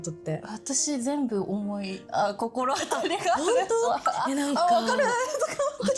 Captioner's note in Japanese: 笑い